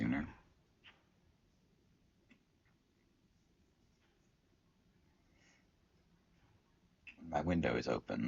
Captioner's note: silence